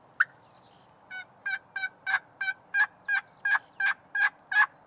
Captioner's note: multiple turkey calls